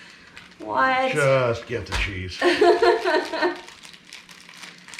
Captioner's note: laughing